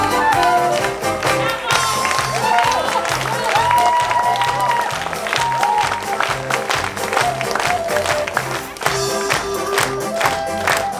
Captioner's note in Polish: Aplauz